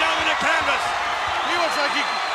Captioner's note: audience cheers